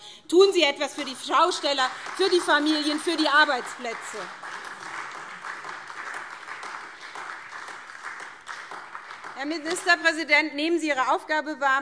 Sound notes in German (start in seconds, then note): 3.7 Beifall SPD